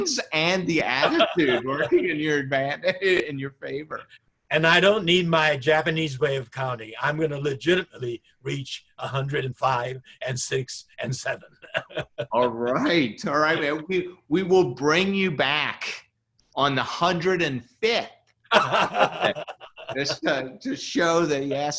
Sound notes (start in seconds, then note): 11.1 laughs; 18.5 laughs loudly